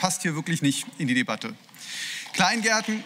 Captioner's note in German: Beifall